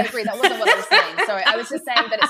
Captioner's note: laughing